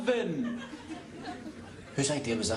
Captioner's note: laughter